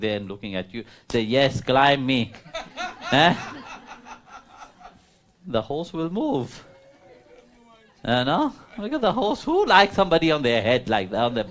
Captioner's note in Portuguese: Risos